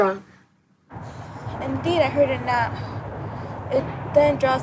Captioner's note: wind blowing